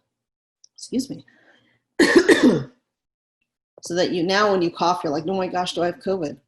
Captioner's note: coughs